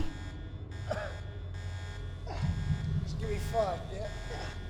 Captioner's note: alarm blaring; Daniel coughing